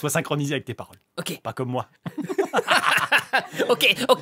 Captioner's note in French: rires